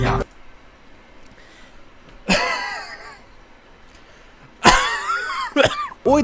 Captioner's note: coughs